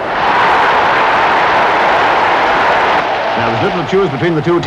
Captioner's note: crowd roaring